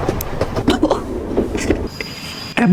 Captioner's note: laughs to myself